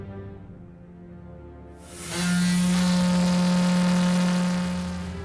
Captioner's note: ferry horn sound